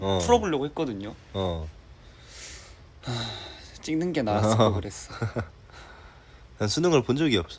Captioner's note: sighs